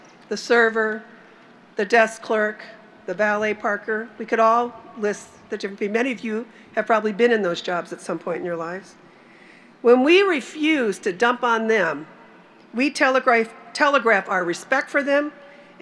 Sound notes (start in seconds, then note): none